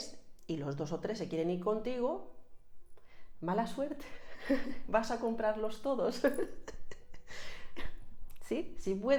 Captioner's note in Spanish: risas